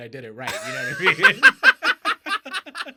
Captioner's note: laughing